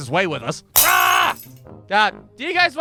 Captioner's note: glass shatters